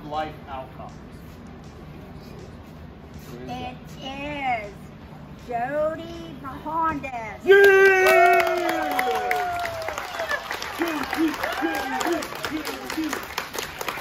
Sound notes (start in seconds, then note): 7.5 cheering